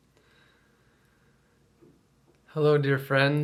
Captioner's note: deep breaths